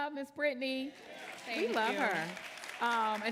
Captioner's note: audience applauding